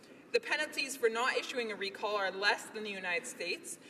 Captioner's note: none